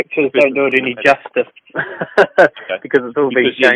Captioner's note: laughs